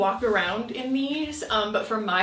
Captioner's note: none